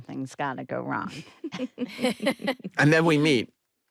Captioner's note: all laugh